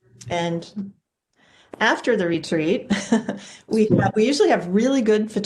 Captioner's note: chuckles